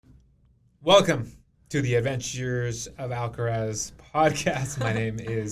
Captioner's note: laughs